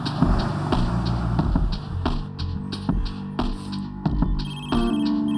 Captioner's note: phone rings out